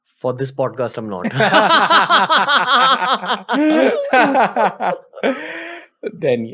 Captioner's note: laughter